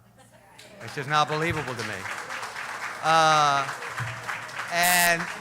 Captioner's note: applause